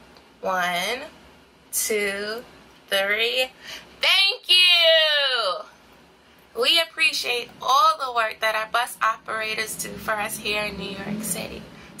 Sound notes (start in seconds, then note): 3.9 shouting